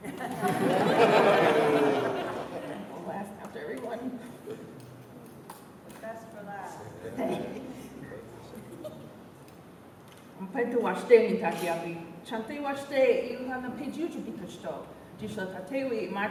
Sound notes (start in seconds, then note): 0.0 laughter; 7.7 chatter